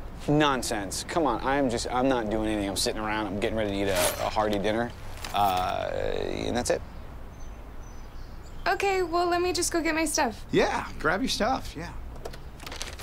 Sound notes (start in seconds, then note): 3.8 bag jingles with metal tacks